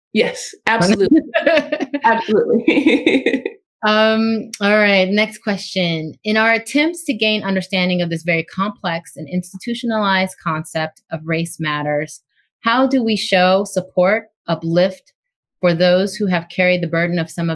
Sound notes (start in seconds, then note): 2.3 laughs